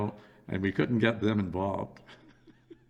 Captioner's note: laughs